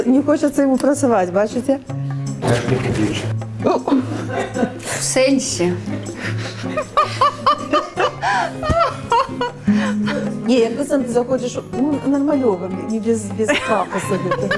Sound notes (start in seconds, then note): 7.2 laughs; 13.5 laughs